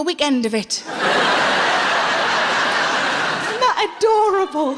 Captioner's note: audience laughing